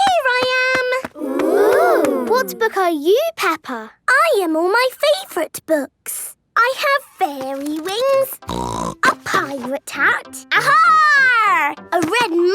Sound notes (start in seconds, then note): 8.4 snorting